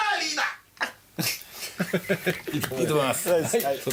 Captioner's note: staff members chuckle